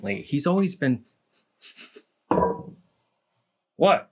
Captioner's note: sniff, sniff